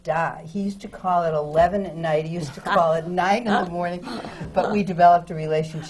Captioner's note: laughs